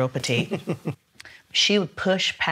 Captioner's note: laughs